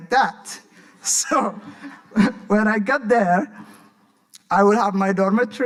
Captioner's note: laughing